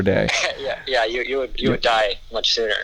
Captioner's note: chuckles